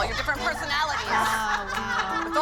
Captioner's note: laughter